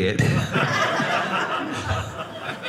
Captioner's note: audience laughing